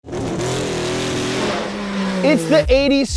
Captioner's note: car engine roars